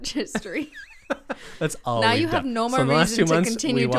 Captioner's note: laughs